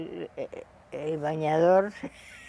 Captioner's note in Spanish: Ríe